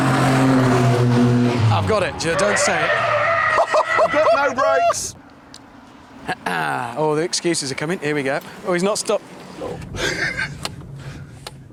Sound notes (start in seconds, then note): 2.9 tyres squeal